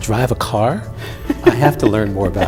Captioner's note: laughing